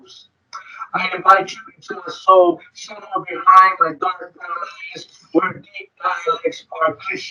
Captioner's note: speaking distorted